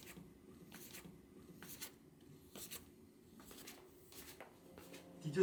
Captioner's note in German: sanfte Pantoffelschritte